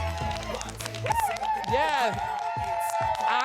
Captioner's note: audience whooping